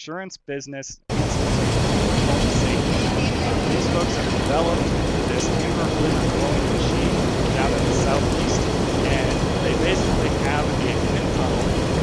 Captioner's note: machine blowing